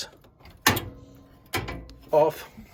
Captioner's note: part clanking